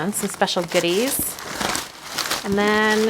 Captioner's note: paper crinkling